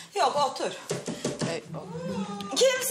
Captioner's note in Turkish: Kapı çalıyor